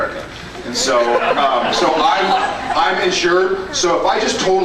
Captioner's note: scattered laughs